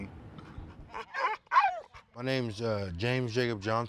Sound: dog whines

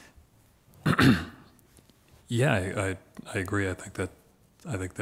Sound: clears throat

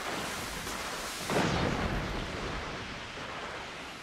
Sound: thunder clapping

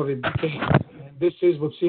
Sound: audio distorts

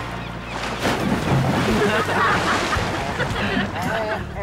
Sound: laughing

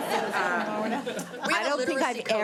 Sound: all laughing

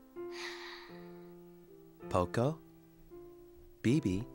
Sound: sighs

